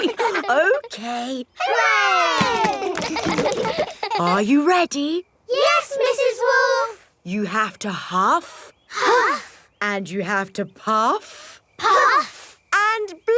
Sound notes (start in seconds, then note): 2.4 chuckles; 3.3 kids laughing